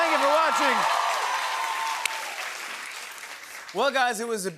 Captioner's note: cheers and applause